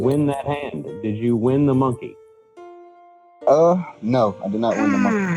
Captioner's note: yawns